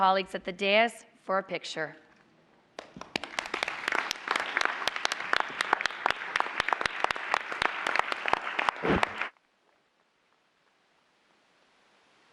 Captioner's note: applause